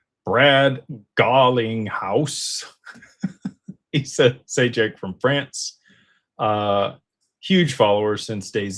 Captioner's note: laughter